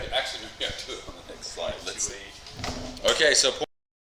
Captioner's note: mic cuts out